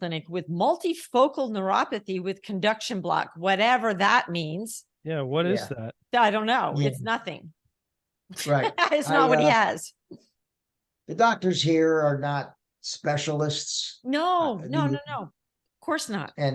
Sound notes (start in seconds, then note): 8.4 laughing